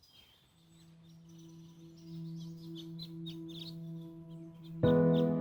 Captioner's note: birds chirping; light piano music